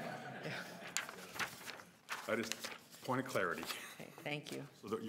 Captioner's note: laughter